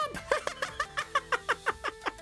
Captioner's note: laughter